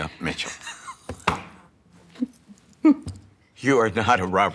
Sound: laughs; laughing

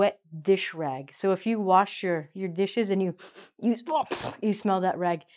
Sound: sniffs

